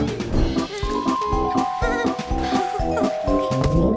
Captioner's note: anxious murmuring